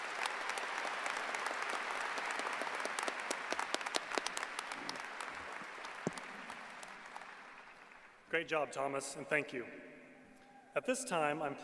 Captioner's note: applause